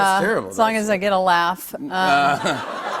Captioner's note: laughter